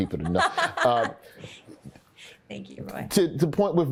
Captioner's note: Desi laughs